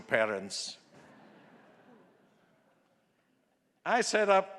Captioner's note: audience laughing